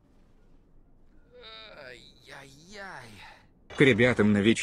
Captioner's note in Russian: негодует на испанском